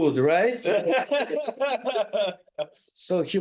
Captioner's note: group laughing